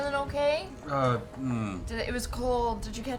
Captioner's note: grunts